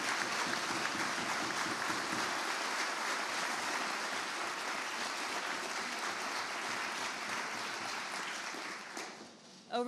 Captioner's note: applause